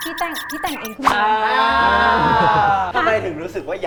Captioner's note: stuttering